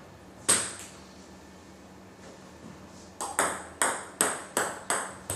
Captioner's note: ball ping pong hitting continues